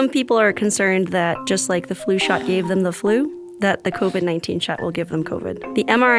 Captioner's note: sighing